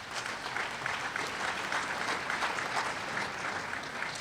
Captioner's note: applause